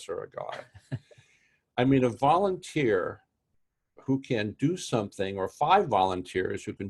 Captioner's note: laugh